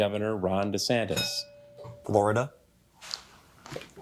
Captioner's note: bell rings